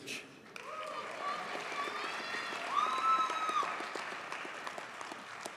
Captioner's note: audience cheers and applauds